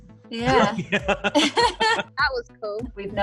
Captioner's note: laughs